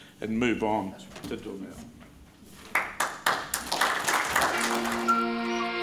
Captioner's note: crowd claps; gentle upbeat music